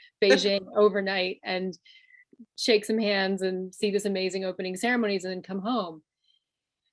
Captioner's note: laughs